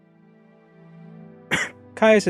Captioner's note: cough